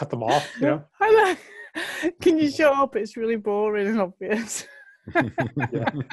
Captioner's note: lacht; alle lachen